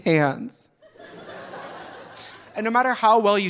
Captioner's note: audience laughing